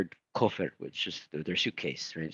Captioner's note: speaking in foreign language